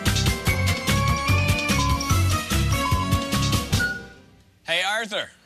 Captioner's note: electronic beeping